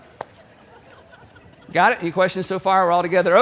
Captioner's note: audience laughing